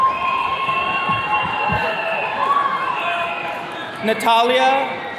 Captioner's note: attendees cheering